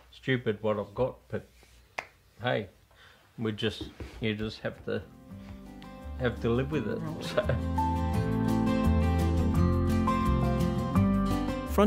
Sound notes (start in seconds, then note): 7.2 chuckles; 8.1 instrumental music